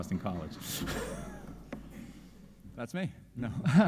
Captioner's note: audience chuckling